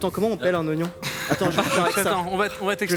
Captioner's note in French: rires